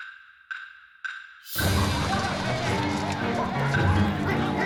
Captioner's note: shouting